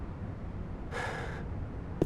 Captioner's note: BLU Scout sighs